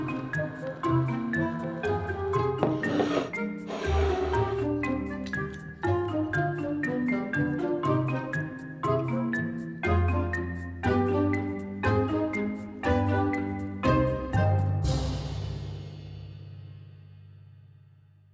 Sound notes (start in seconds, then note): 2.6 bowl sliding